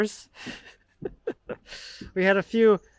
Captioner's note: laughing